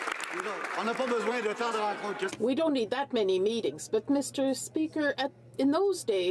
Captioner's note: some Applause